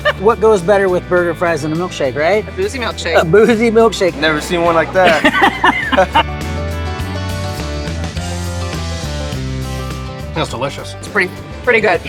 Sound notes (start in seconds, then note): 4.0 laughing; 6.2 bright music